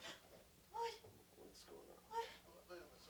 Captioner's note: gasps